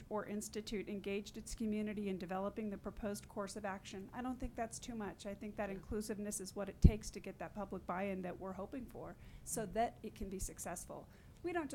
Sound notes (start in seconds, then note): none